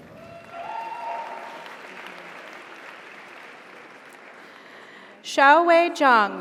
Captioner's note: audience cheers; audience applauds